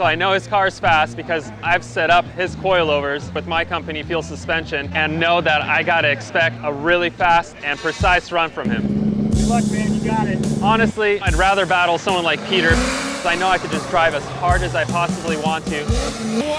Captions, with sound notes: I know his car is fast because I've set up his coilovers with my company Feal Suspension, and know that I gotta expect a really fast and precise run from him. - Good luck, man, you got it. - Honestly, I'd rather battle someone like Piotr. (engine revving) I know I can just drive as hard as I possibly want to.